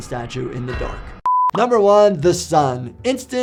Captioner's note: beep